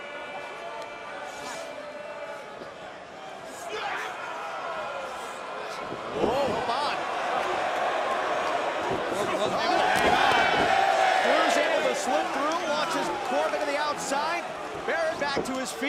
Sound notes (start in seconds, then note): 0.2 crowd chatter; 8.4 crowd cheering